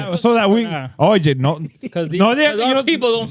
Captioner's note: speaking In Foreign Language